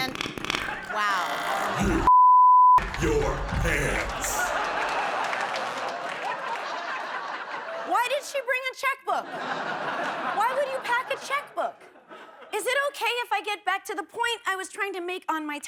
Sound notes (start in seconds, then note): 0.0 farting; 2.0 deep Voice; 4.9 laughing